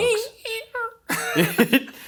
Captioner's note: imitates creaking; laugh